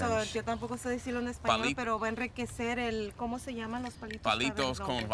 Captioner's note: woman speaking Spanish; man speaks Spanish